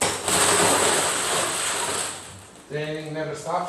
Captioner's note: balls rustling